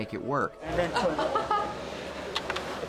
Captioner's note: laughs